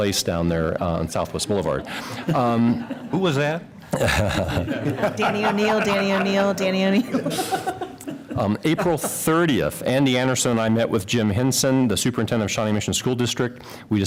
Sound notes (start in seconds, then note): 3.8 laughter